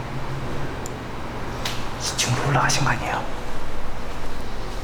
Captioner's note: whispering